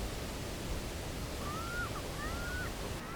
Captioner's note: birds cawing